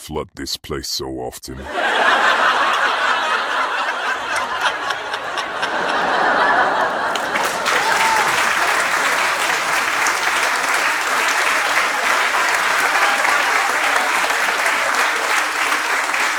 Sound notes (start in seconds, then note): 1.7 audience laughing; 7.1 audience clapping